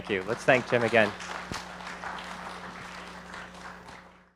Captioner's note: audience applauding